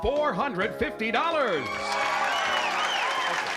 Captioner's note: cheering